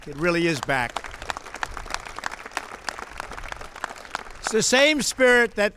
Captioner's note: applause